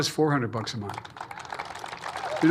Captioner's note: applause